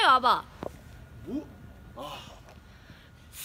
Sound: sigh

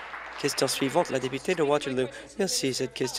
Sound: applause

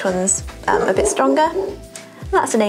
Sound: barking

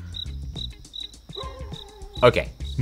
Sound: crickets chirp

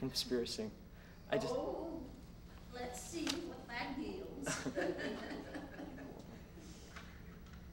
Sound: laughing

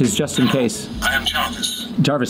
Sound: Robotic voice

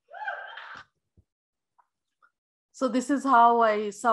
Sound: audience cheering

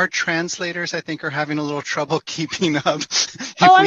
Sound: chuckling

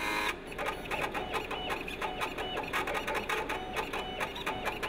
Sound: machine sounds

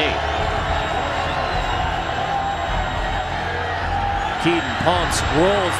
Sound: crowd cheering

